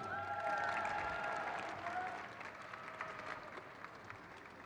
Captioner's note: crowd cheers